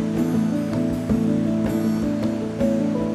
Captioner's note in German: Wasserrauschen